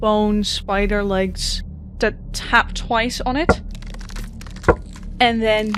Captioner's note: bones cracking as they tap the glass